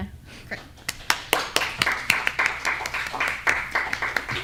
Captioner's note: applause